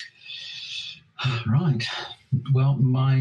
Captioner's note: sighs